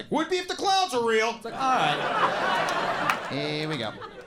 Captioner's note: audience laughs